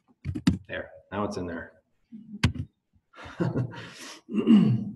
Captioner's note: laughs